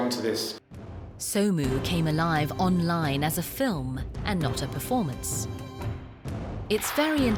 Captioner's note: voiceover